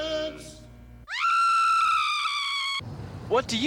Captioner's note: woman screams